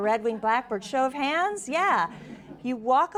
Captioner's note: audience laughs